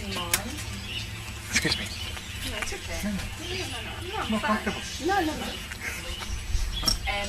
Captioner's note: conversing